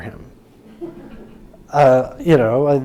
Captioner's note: audience laughing